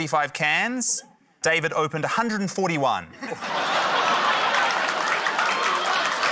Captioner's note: laughter, applause